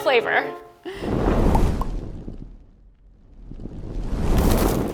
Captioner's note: flames whooshing